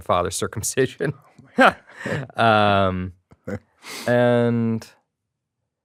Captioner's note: chuckles